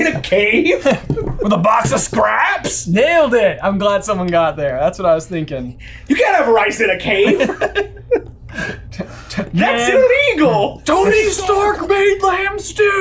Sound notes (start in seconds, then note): 8.8 laughing